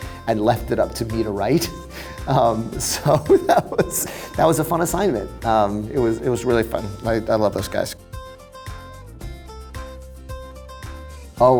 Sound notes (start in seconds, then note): 1.6 laughs; 8.1 joyful music